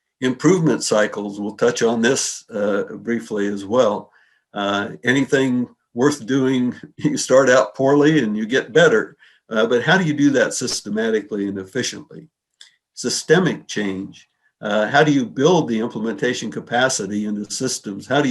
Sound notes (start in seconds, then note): 6.6 chuckles